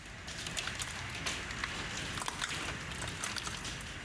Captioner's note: rain pounding